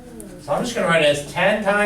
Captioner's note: voiceover